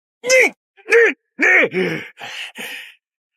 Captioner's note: sighs